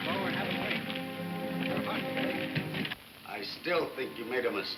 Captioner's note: men chattering